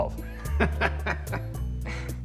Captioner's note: laughs